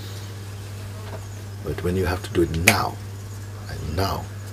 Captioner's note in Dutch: vingerknip